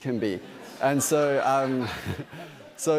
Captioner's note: laughter